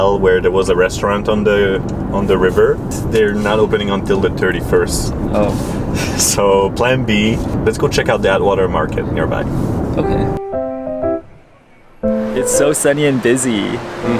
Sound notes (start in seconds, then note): 6.4 laughing; 12.0 upbeat music